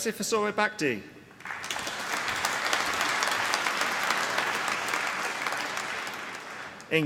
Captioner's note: applause